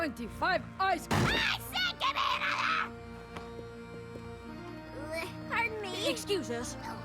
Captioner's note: bang